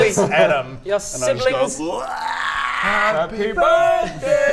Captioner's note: blaaaarghhhhhhh